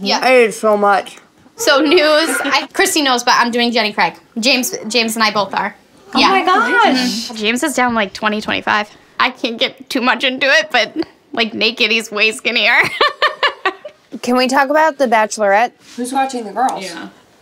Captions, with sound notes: Yeah, I ate so much. So news, Christy knows but I'm doing Jenny Craig. James and I both are. Yeah. James is down like 20, 25. I can't get too much into it, but like, naked, he's way skinnier. (giggling) Can we talk about the Bachelorette? Who's watching the girls?